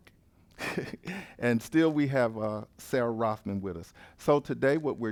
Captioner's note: laugh